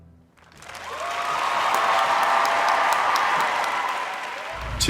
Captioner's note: applause